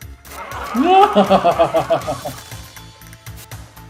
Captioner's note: soldiers laugh; laughs ostentatiously